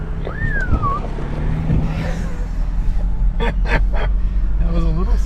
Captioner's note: whistle